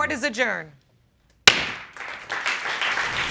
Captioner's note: audience clapping